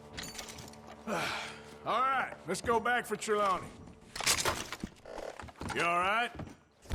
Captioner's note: sighs